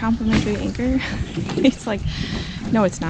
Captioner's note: laughs